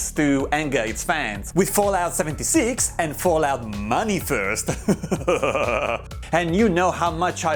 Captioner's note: evil laugh